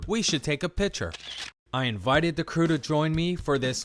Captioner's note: camera shutter clicks